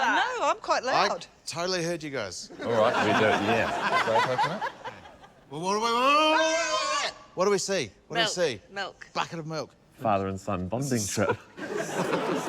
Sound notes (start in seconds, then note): 2.5 laughter; 6.4 justine yells; 11.8 laughs